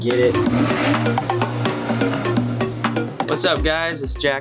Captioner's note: engine revving